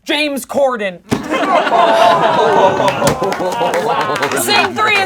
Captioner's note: laughing